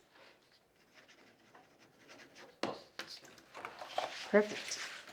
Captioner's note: pen scratching